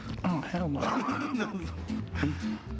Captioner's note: laughs